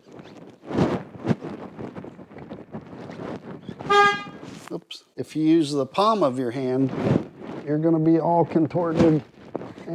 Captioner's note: horn honk